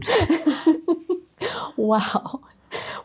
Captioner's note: laughing